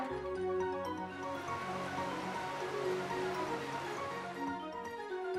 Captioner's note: river flowing; relaxing upbeat music